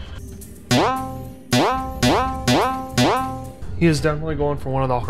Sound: sonic the hedgehog spring noise

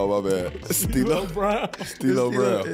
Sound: chuckling

